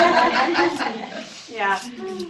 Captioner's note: laughter